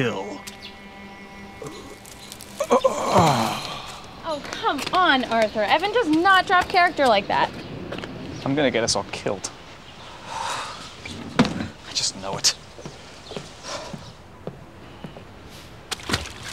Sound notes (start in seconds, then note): 2.5 death rattle; 10.0 sighs